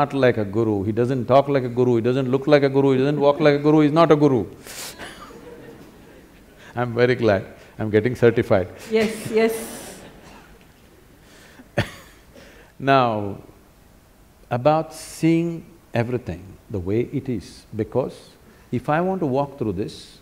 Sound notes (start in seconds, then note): 5.0 laughter; 8.4 laughter; 13.2 laughs